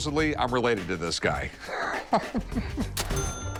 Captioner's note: laughs